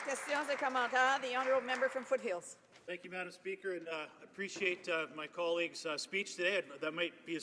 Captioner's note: applause